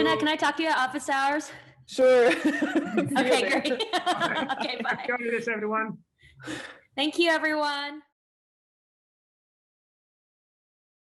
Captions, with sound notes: Jeannette, can I talk to you at office hours? Sure. [CHUCKLES] See you there. OK, great. [CHUCKLES] OK, bye. Happy holidays, everyone. Thank you, everyone.